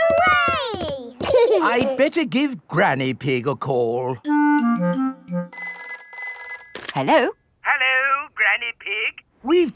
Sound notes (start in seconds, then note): 5.5 telephone ringing